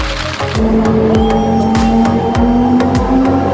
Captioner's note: cheers